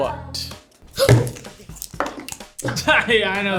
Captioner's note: gasps; laughs